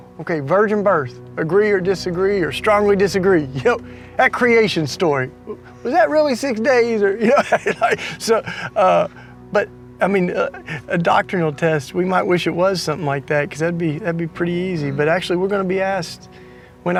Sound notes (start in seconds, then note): 7.2 laughing